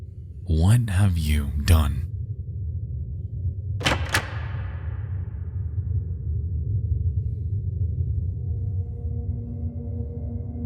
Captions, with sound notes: What have you done? (door opens) (eerie music)